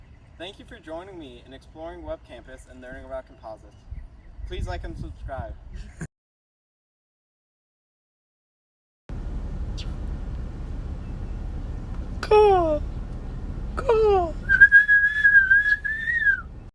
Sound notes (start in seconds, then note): 9.7 chirp; 14.4 whistling